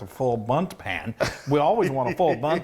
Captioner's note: laughing